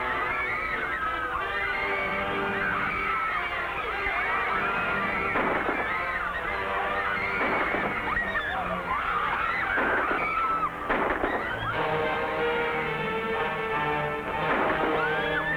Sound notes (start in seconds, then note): 4.9 guns firing; 11.6 dramatic music